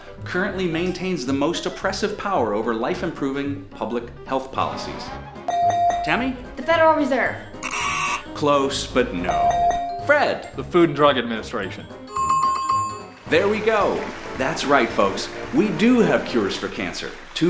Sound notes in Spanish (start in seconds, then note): 5.4 Sonido de la campana; 7.6 Sonido zumbador; 9.3 Sonido de la campana